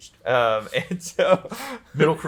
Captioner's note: pair laughs